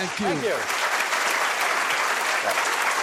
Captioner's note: audience applauds